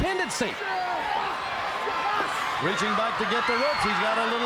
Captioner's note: crowd cheering